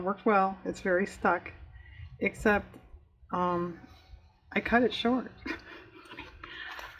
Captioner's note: laughs